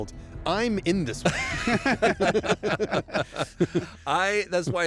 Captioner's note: laughter